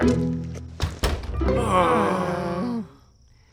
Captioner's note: sighing